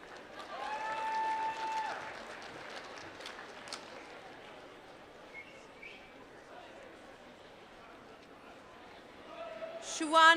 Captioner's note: applause